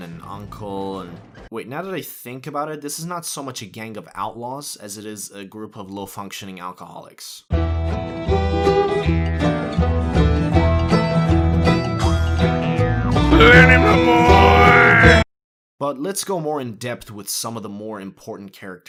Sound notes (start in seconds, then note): 8.8 Arthur yelling Lenny